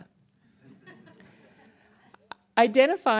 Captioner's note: scattered laughter